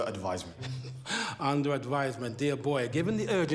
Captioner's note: laughs